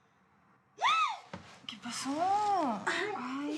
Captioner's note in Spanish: grito